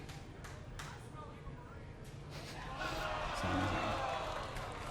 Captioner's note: crowd cheering